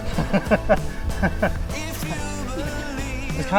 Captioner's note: laughing